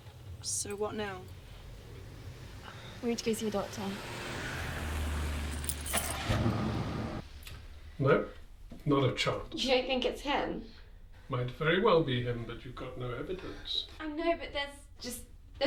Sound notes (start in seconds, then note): 4.6 engine starts